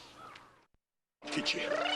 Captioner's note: squawking